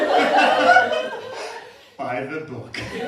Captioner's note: laughter